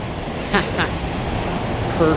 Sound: laughs

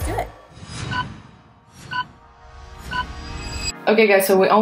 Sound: countdown beeping

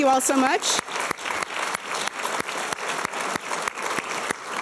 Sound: applause

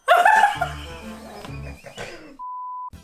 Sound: both laughing; laughs; electronic beep

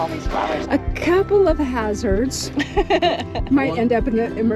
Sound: laughter

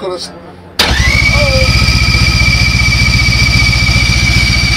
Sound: car engine starting

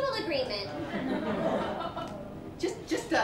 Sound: laughter

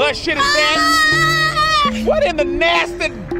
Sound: screams

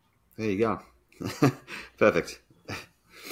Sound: laughs

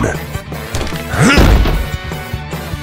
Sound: grunts

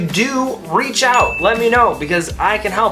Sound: ding

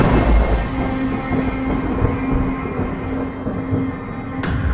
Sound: clock ticking; tense music; thunder rumbling

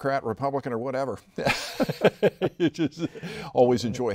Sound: both laughing

